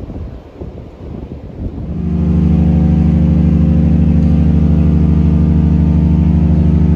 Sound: horn blows

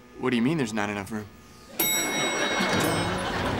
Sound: dinging

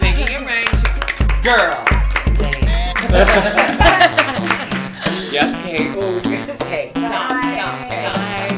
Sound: clapping, clapping, clapping

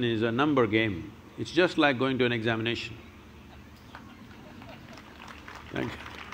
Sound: few laugh; applause

